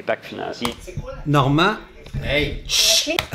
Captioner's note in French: bruit de clavier